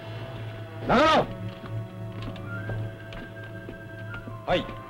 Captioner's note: speaking japanese